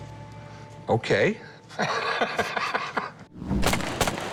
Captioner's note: laughs